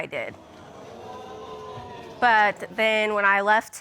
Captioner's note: audience exclaiming